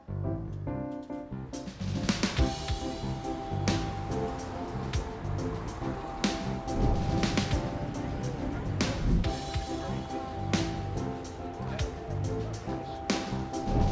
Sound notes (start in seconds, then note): 2.9 traffic whooshing; 6.7 air whooshing; 10.1 passersby chattering indistinctly; 13.1 air whooshing